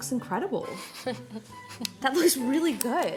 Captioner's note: laughing